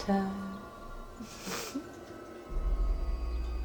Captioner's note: giggles